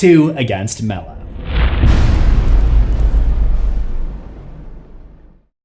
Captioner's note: impact